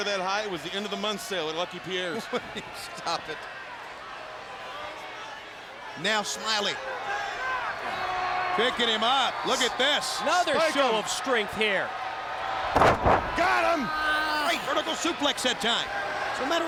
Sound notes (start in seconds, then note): 2.9 laughing